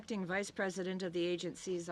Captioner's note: speaking French